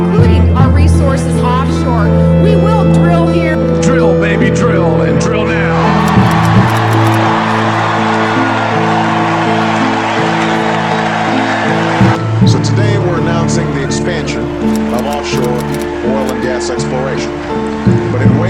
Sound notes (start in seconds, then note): 5.7 audience cheering